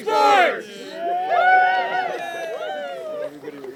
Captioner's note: cheering